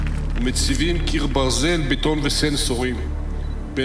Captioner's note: speaking Hebrew